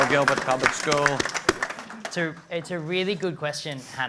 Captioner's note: applause